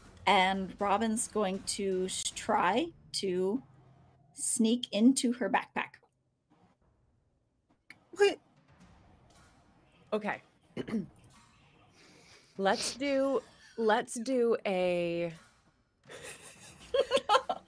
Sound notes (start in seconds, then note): 10.8 clears throat; 16.1 laughs